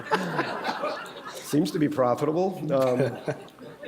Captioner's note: laughter